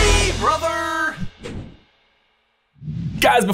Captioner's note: transition wooshes